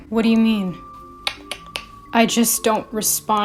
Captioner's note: clicks tongue x3